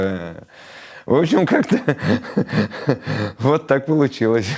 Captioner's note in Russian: смеётся